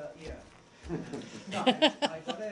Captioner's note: laughter